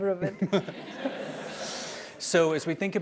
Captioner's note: laugh